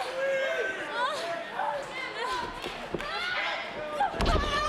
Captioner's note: crowd shouting